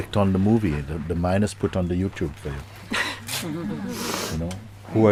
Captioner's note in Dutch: Gelach